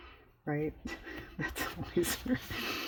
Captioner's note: laughs